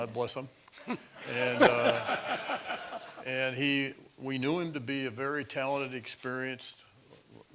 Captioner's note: laugh